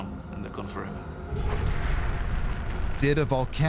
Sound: ominous music; deep rumble

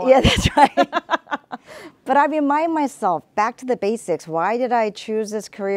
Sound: both laugh

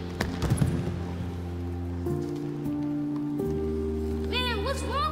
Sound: Fletcher thudding

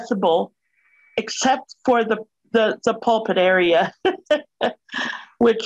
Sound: laughs

